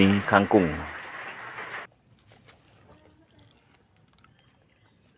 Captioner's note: applause